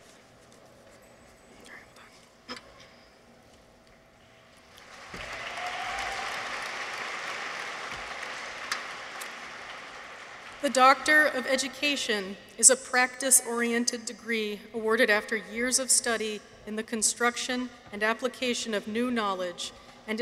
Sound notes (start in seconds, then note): 4.7 audience applauds